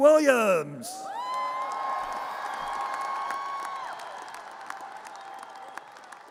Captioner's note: audience cheers and applause